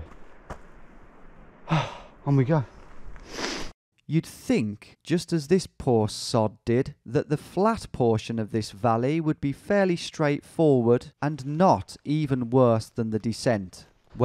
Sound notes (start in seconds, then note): 1.6 sighs; 4.0 voiceover